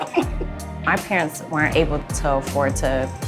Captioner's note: both laughing